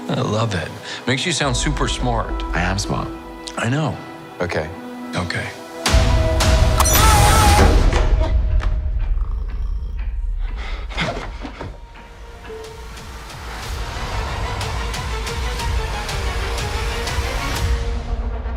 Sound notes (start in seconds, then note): 6.1 dramatic music; 6.7 Loki screams; 9.0 cat purrs; 13.8 dramatic music